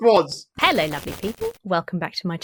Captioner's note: logo buzzes